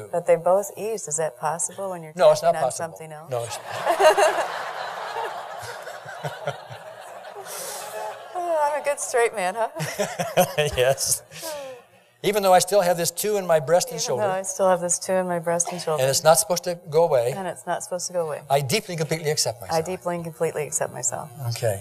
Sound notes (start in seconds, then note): 3.5 laughing